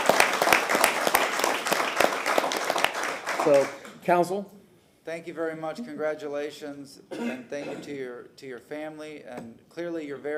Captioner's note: applause